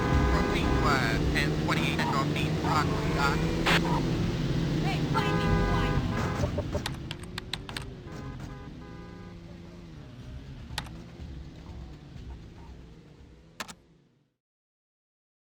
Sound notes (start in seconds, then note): 1.2 police radio chatter; 6.8 keyboard clicking